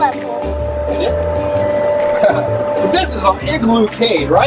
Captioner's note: chuckles